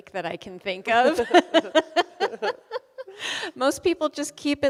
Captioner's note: both laughing